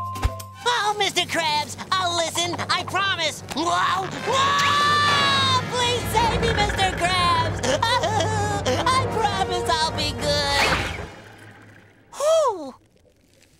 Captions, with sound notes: Oh, Mr. Krabs, I'll listen, I promise. Whoa. Whoa! Please save me, Mr. Krabs! [crying] I promise I'll be good. Whew.